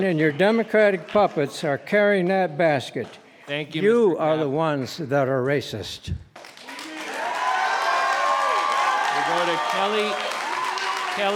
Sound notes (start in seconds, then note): 6.4 cheering and applauding